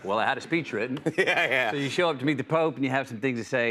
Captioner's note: chuckles